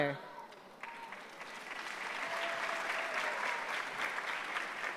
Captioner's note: applause